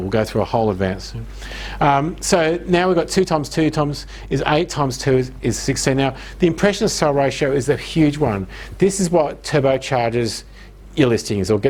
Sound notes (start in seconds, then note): none